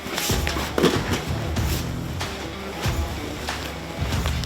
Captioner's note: dramatic music; both thudding